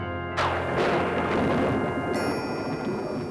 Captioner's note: thunder rumbles